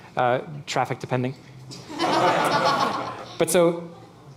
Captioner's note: laughing